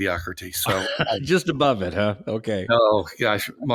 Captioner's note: laughs